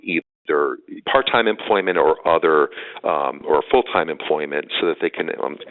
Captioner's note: audio dropping